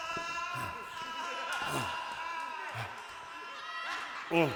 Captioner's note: Renfield groans, struggling to breath